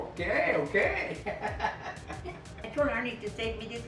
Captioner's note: laughs